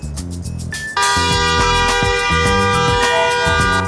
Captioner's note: horn continues